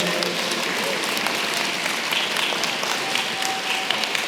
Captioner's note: applause